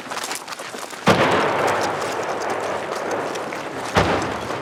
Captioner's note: bomb exploding